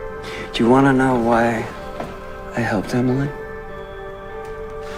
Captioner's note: voiceover